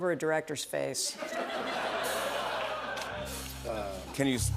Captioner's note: laughter